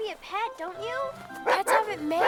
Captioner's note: barking